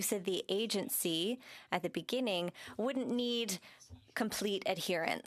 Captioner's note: speaking French